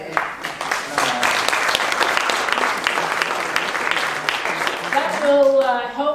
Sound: audience clapping

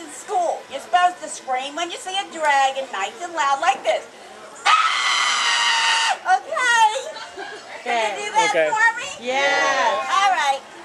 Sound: screams

